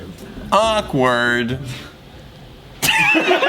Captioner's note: everyone laughs